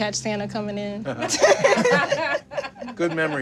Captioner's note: laughing